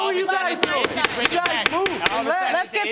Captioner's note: banging gavel